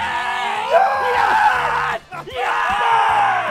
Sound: cheering

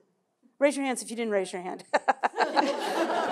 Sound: laughs

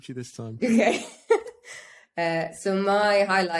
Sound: laughs

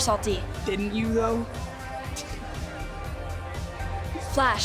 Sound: laughs

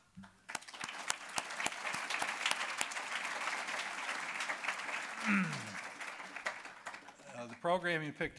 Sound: applause

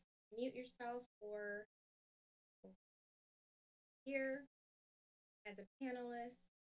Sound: audio cuts

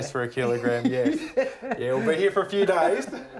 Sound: laughs

